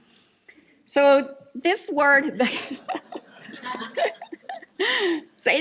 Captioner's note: laughs